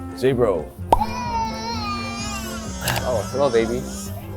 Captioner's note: baby cries